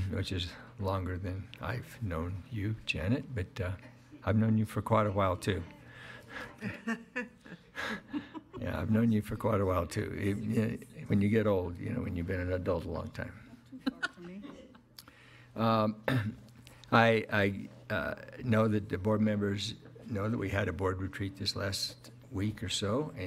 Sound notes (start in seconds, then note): 6.3 laughing; 13.6 laughing